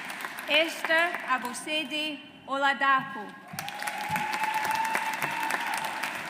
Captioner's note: audience applauds